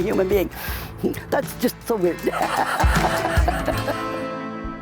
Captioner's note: laughs